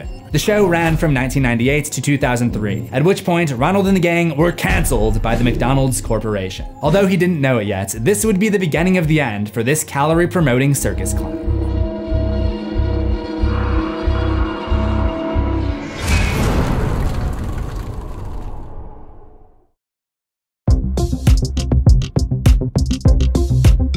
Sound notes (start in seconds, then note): 10.9 creepy sounds; 15.7 impact